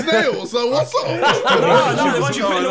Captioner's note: laughing